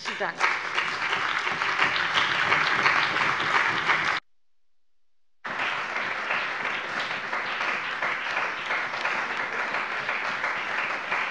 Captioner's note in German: Anhaltender Beifall bei dem BÜNDNIS 90/DIE GRÜNEN und der CDU